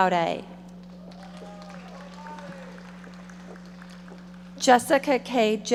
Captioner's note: audience applauding